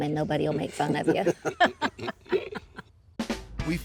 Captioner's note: laughs